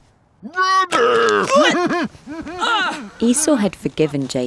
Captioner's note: laughs